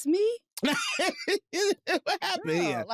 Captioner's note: laughs